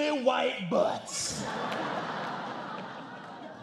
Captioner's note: laughter